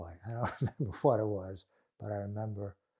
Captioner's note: laughing